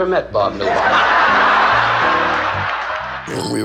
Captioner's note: laughing